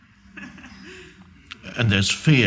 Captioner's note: audience chuckling